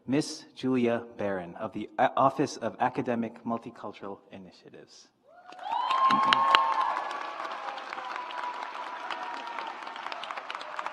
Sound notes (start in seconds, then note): 5.4 audience applauds